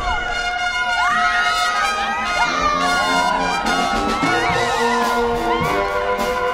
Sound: applause

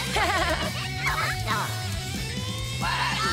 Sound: Pikachu giggles; laughing; Pokémon cheering

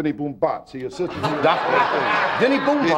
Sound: audience laughing

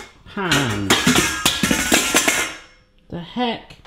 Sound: pans clatter

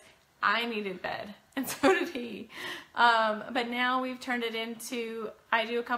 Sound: snickers

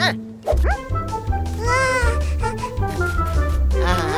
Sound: happily

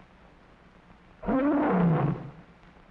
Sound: lion roaring

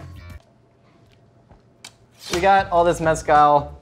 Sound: slurping

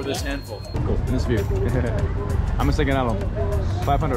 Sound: thanks in foreign language

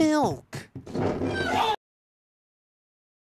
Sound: screaming

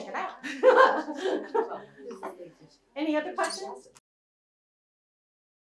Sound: laughs

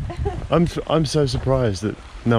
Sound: laughter

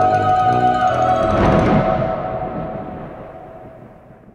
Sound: spooky music; thunder

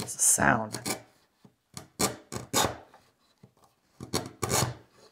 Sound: chisel scraping

